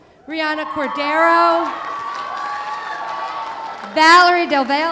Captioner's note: audience cheering